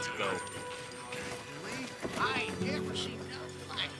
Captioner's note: men mumbling